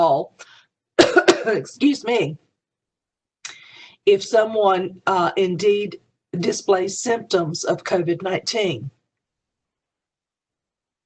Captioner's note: cough